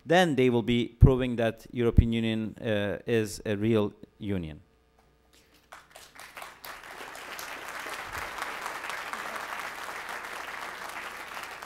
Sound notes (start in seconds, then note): 5.5 applause